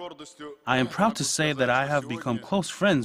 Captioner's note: uzbek